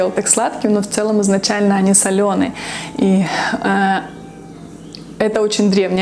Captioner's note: pulses